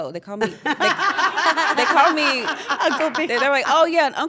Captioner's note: laugh